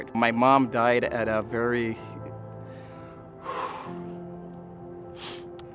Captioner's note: exhales sharply